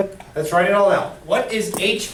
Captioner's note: voiceover